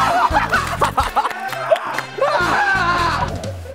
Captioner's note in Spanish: Un grito de desesperación